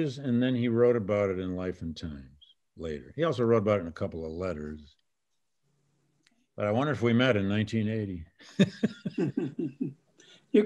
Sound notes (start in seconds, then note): 8.4 laughing